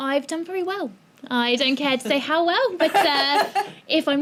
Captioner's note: laughing